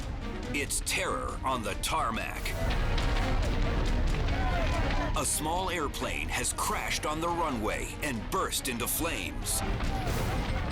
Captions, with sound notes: It's terror on the tarmac. (flames roaring) (people yelling) A small airplane has crashed on the runway and burst into flames.